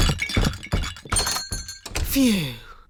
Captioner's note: thumping